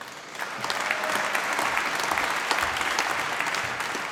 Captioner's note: applause